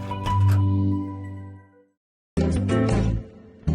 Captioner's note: door clicks; lively music